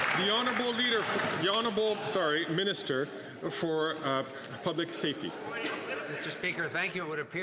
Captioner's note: some Applause